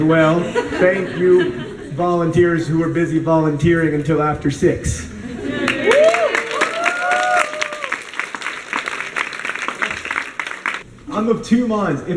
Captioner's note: applause